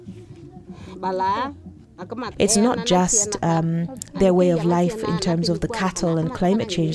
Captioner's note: voice over the voices of women